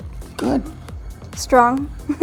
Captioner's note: laugh